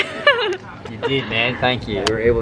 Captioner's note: laughs